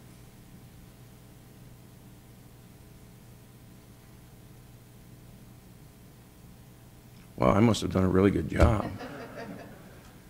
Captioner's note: laughter